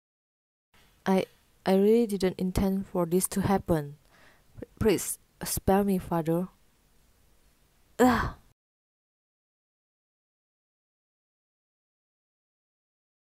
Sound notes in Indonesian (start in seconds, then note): 8.0 megap-megap